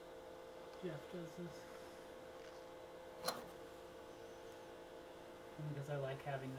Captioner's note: machine hums